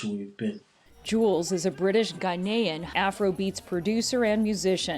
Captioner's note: voice-over